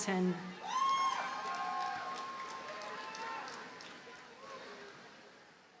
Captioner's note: audience cheers and applauds